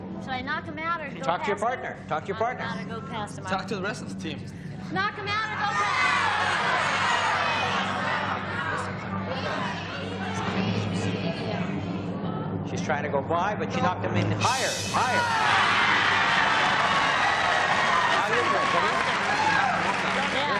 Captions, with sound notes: - Now, should I knock him out or-- - Talk to your partner. Talk to your partner. - Got to go past the amount. - Talk to the rest of the team. - Knock it out-- [crowd screaming] - She's trying to go by, but she knocked him in higher, higher. [applause]